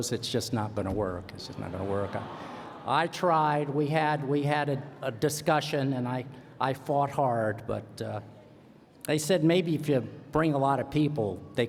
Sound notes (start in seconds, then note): 1.6 laughter; 2.3 sighing